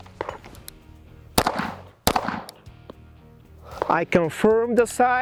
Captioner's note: holster rattles; pistol popping